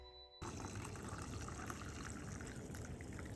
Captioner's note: tea pouring